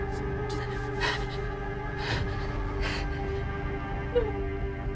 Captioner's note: Belle panting; Belle crying